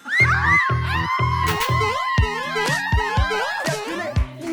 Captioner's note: Real Guys jump sound effect